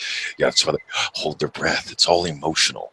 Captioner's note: gasps